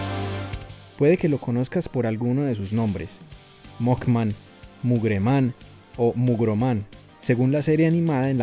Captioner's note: in spanish